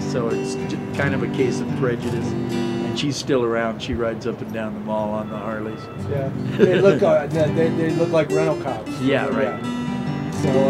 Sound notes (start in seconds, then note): 6.3 laughs